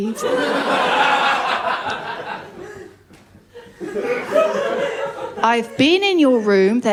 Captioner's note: laughter